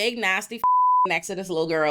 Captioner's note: beep